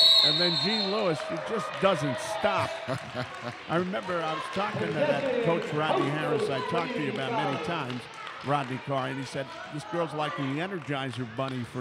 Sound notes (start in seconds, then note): 4.8 laughs